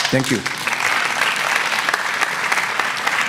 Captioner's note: applause